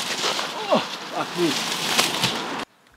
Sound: leaves rustling; grunts

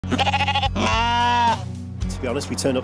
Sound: sheep bleat

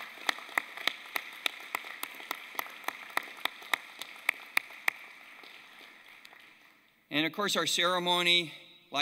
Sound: applause

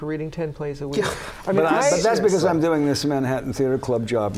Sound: laughter

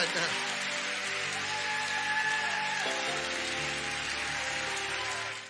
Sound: congregation cheering and clapping

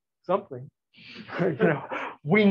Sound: laughter

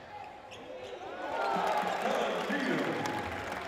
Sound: applause

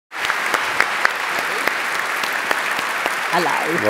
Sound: applause

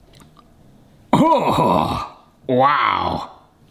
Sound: groans

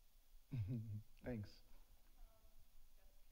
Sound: chuckles

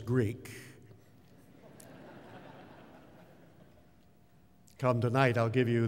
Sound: laughter

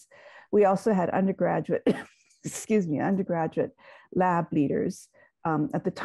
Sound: coughs

